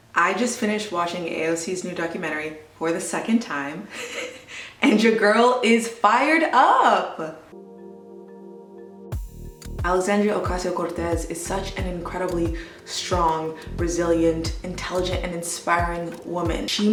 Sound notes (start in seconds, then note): 4.0 chuckles; 7.7 light electronic music